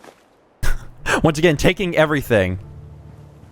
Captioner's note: chuckle